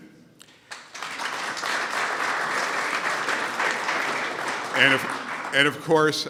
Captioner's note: applause